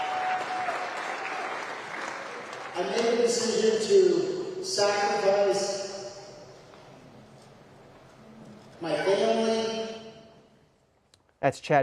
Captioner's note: applause